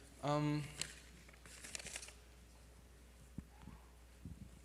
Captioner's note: papers rustling